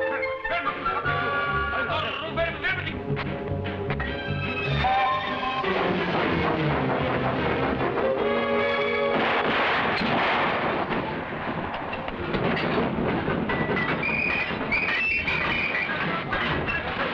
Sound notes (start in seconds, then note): 0.1 officers shouting in foreign language; 9.0 gun firing; 11.4 train chugging; 14.0 whistles blowing